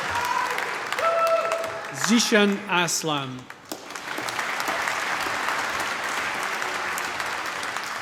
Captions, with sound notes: Zeeshan Aslam. (APPLAUSE)